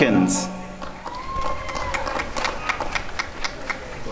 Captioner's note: applause and cheering